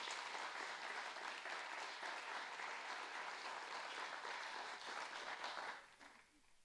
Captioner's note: audience applauding